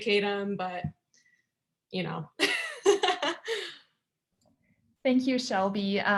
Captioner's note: laughter